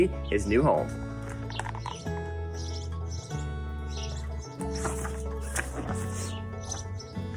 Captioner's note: birds chirp; upbeat music